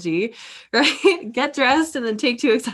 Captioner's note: chuckles